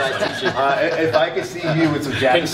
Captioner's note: laughter